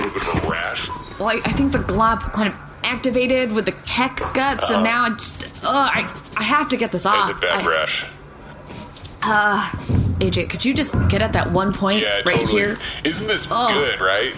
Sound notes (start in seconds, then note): 6.8 scratching; 12.5 scratching